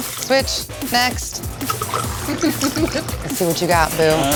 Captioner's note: drinks pouring; laughter